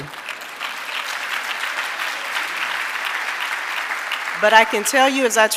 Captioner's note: audience applauding